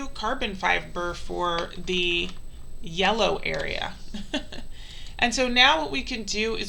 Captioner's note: laughs